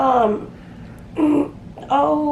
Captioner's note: clears throat